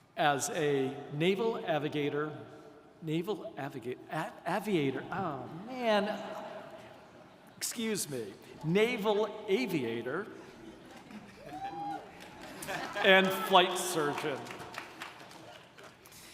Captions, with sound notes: as a Naval avigator... Naval avigator? Aviator, oh, man! (audience chuckles) Excuse me, naval aviator (audience laughs) (attendee cheering) and flight surgeon.